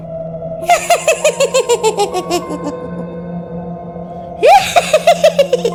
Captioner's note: laughs